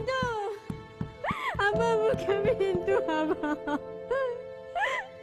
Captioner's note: woman sobbing